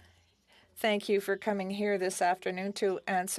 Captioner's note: speaking French